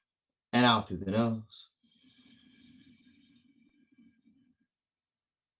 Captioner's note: exhale